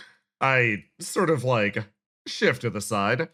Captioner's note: none